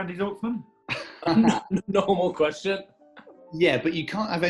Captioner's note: laughing